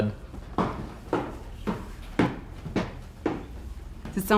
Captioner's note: imitating footsteps